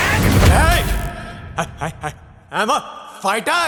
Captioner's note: stammering